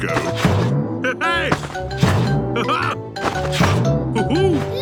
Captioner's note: laughs